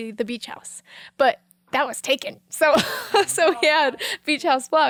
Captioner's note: laughing